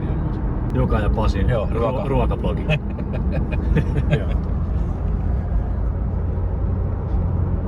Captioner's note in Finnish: naurua